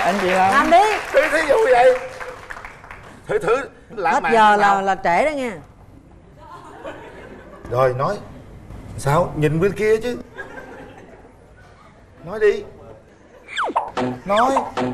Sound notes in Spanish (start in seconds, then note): 1.9 Aplaudir